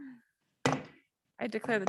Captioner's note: gavel bangs